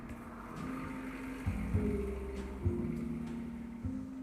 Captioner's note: truck engine revving